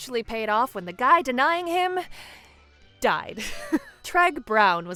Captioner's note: chuckles